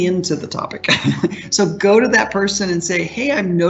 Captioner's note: laughs